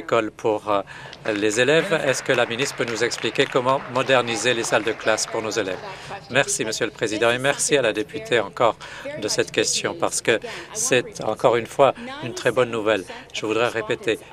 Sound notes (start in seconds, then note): 3.5 applause